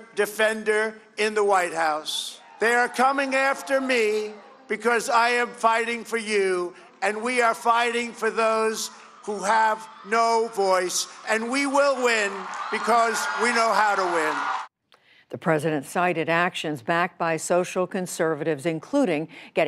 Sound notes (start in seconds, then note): 14.2 cheering and applause